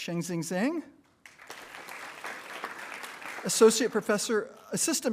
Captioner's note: attendees applauding